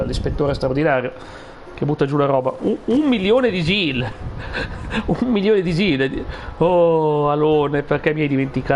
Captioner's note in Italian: risate